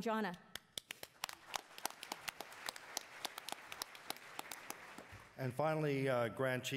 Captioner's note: attendees applauding